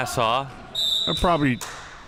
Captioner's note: whistle chirping